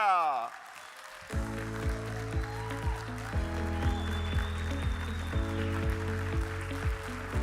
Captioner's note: audience applauding; upbeat music